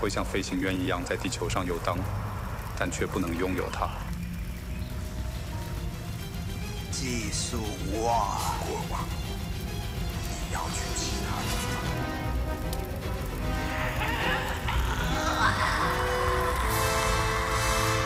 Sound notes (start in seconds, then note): 3.5 flames roar; 4.4 birds tweeting; 11.6 rising music